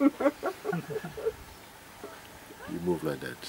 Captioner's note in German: Lachen